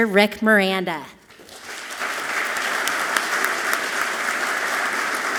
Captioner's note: audience clapping loudly